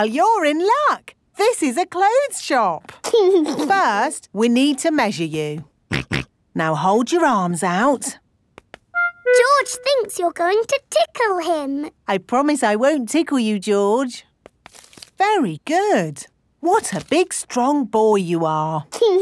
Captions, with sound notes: Well, you're in luck! This is a clothes shop. -First, we need to measure you. -(SNORTS) Now hold your arms out. George thinks you are going to tickle him. I promise I won't tickle you, George. Very good. What a big strong boy you are.